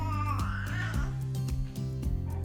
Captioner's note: baby sounds